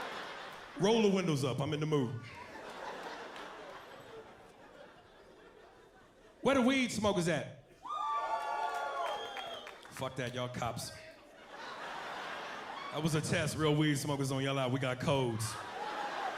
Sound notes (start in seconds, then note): 7.8 cheering